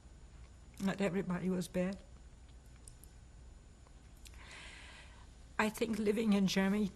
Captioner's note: pauses for 3 seconds